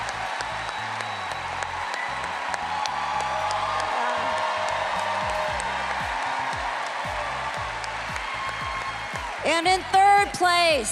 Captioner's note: cheers and applause